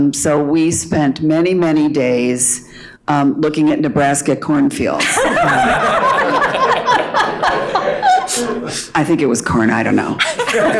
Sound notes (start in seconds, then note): 5.0 all laughing